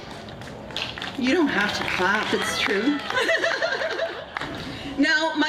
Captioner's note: Aplausos